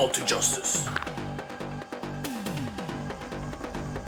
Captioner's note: knuckles cracking; exciting beat music